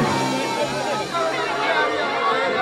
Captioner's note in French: soupir